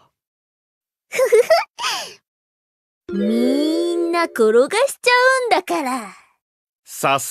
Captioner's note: laughs